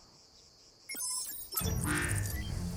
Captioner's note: electronic buzzing